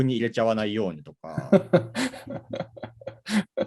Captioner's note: laugh